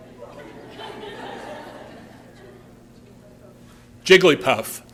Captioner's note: laughter